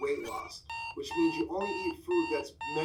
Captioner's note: alarm clock beeping